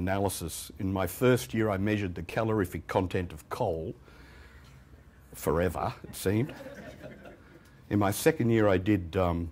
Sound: laughter

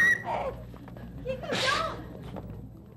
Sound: spitting

